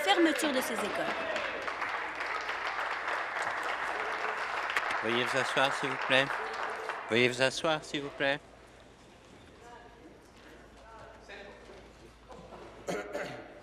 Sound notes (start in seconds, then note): 3.8 applause